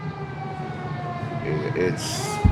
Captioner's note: siren wailing